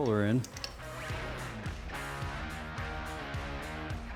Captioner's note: hammering